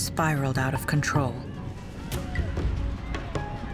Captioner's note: people shouting